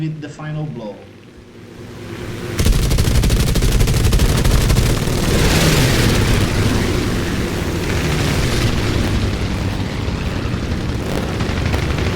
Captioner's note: engines, machine guns, flying sounds